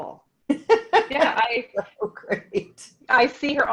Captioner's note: chuckles